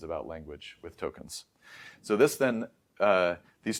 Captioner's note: inhales